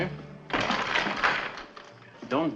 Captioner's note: lock rattling